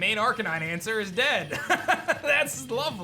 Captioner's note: laughs